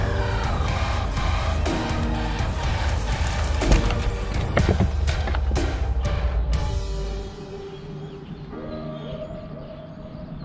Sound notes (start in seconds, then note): 3.1 fish splashing; 7.1 mellow techno music